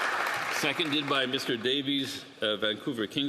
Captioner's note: applause